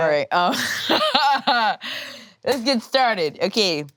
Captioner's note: laughs